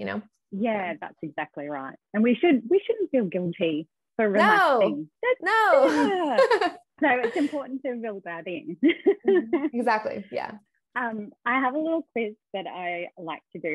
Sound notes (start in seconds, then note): 8.9 laughs